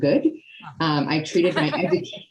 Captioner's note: laughing